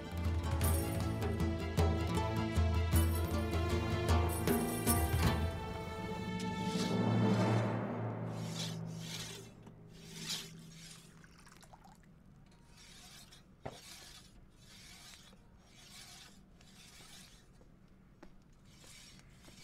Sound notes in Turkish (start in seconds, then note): 0.1 Müzik - Gerilim; 8.1 Kılıç bileme sesi